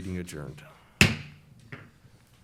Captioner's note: gavel slam